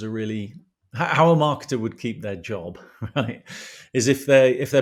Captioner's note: laugh